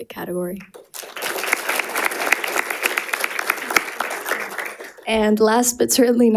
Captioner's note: audience applauding